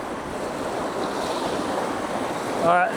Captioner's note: water splashing